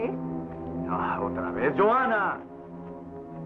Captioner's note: none